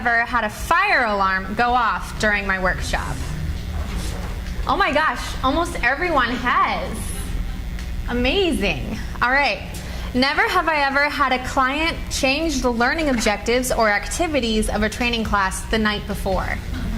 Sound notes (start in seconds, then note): 3.9 cards flutter